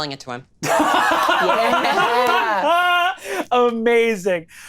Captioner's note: all laughing